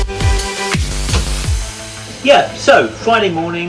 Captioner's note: tap pressing